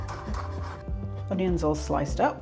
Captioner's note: chopping sounds